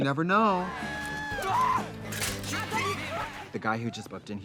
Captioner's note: laughs; guys yelling